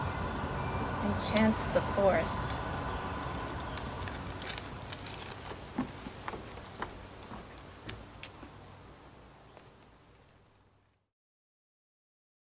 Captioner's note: fading footsteps and birds chirping